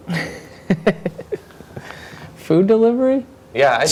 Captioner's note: cute laughing